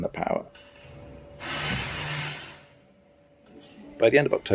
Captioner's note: drill whirring